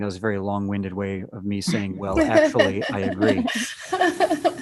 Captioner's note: all laugh